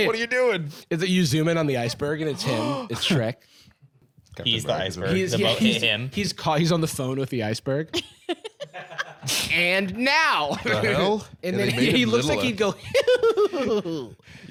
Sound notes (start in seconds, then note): 2.3 gasps; 8.0 laughing